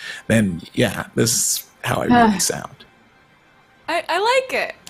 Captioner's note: sighs